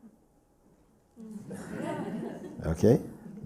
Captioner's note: laughter